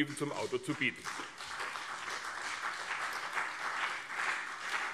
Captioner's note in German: Beifall CDU und BÜNDNIS 90/DIE GRÜNEN